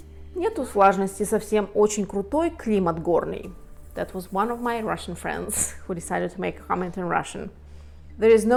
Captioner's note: Russian